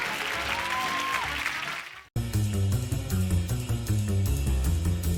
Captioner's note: cheers